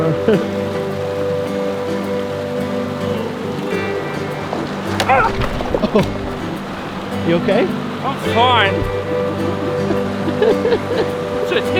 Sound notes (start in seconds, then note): 4.8 exclaims; 10.2 chuckling